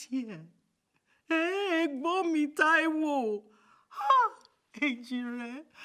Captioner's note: speaking in Yoruba